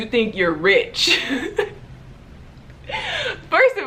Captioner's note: laughing